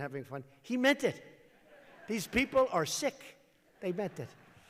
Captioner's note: laughter